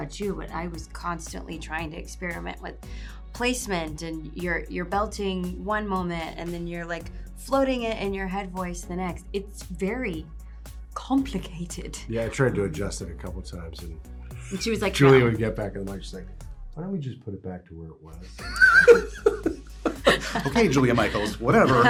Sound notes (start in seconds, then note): 18.3 laughs